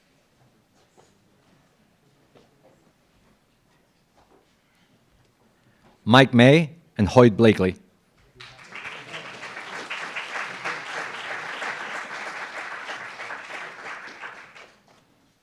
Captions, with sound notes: - Mike Mei and Hoyt Bleakley. (applauds)